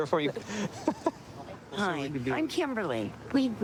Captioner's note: laughing